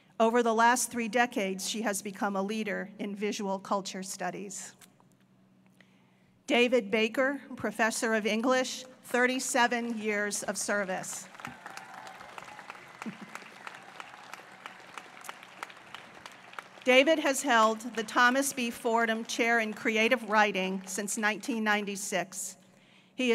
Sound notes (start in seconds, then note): 11.0 applause